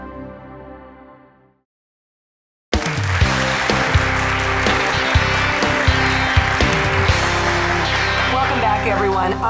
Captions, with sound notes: (audience applauds) (upbeat music) - Welcome back everyone.